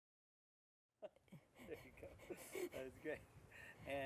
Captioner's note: laughter